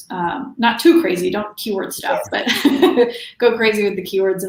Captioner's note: laughs